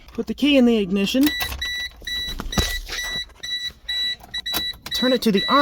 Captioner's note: best door chime ever